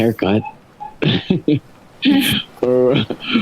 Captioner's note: laughs